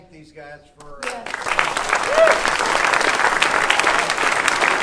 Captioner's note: audience applauding